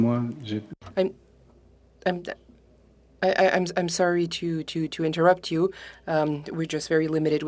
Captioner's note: speaking French